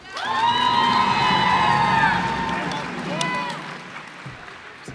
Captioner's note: cheers and applause